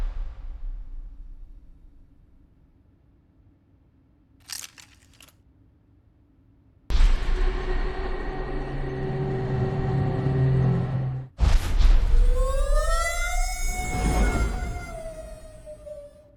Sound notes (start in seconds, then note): 7.0 heavy machinery sounds; 12.1 Robo screams